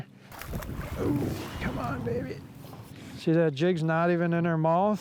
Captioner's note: water splashes